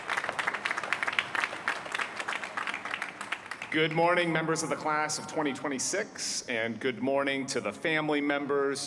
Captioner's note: applause